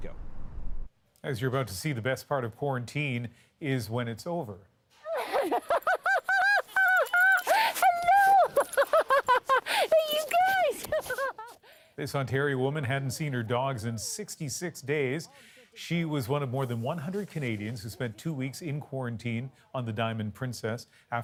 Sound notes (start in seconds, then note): 8.6 laughter